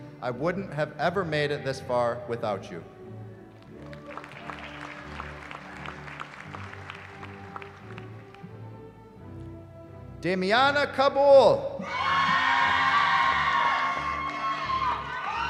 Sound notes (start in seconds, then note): 3.5 applause; 11.8 cheering